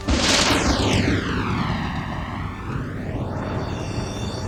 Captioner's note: thunder crashing